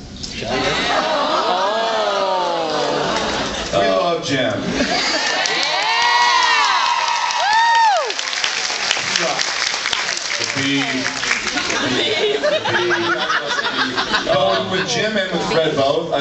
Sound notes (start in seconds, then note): 4.9 cheers